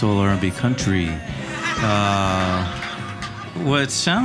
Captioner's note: audience laughing